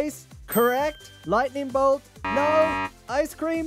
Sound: bell dings; buzzer beeps

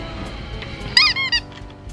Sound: squeaky noise

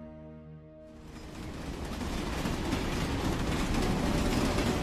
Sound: train rattles; pensive music

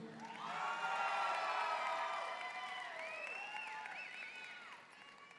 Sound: audience cheering and applauding

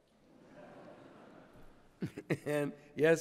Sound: laughter

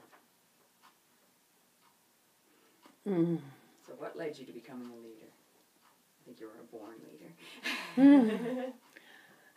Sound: laughs

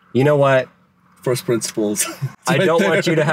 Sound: laughs

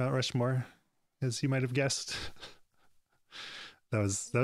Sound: chuckles

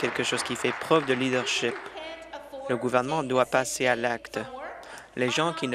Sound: applause

